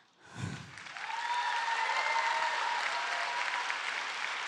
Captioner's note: applause